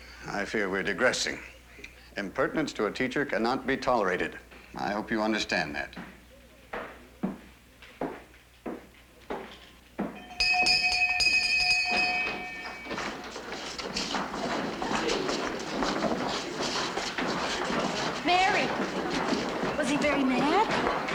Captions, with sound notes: I fear we're digressing. Impertinence to a teacher cannot be tolerated. I hope you understand that. [BELL RINGING] >>Mary, was he very mad?